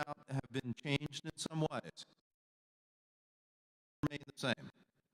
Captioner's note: audio cuts out